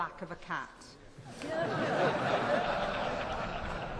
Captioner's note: laughter